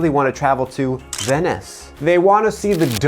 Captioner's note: camera shutter clicks